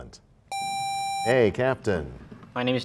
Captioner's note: sound of a buzzer